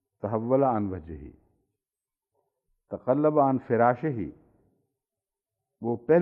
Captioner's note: Arabic